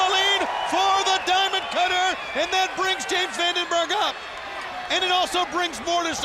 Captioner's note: crowd cheering